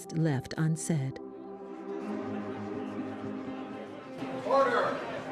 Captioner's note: indistinct chatters